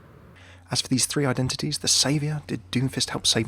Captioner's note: voiceover